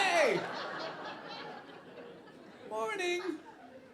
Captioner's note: audience laughing